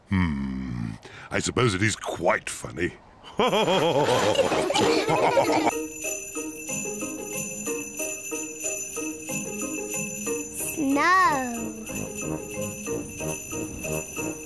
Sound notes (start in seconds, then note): 3.3 all laugh